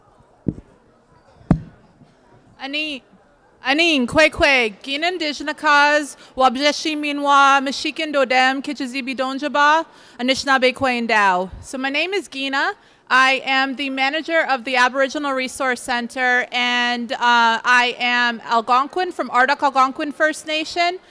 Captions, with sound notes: [speaking Anishinaabe] [in English] So my name is Gina. I am the manager of the Aboriginal Resource Centre, and, uh, I am Algonquin, from Ardoch Algonquin First Nation,